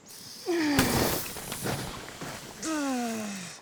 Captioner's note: groaning